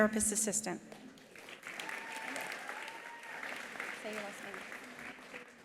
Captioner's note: attendees applauding; attendees cheering